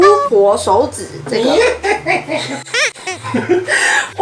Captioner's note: snicker